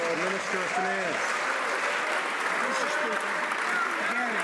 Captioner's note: some Applause